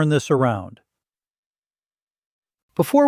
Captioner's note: pause